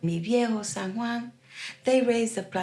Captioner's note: in Spanish